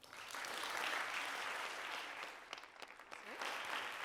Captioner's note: applause